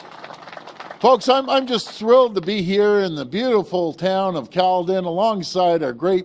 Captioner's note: applause